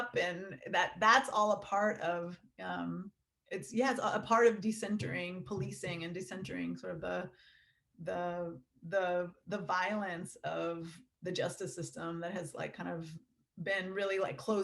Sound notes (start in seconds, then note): none